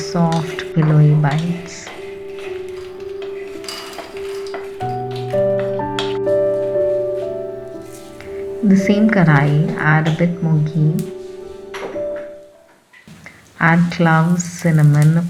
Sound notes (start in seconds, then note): 2.7 foxnuts dropping in the bowl; 7.6 cumin seeds sizzling